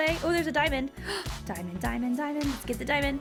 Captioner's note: gasping